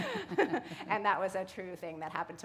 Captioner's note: laughter